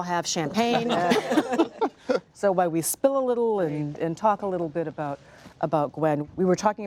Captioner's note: laughter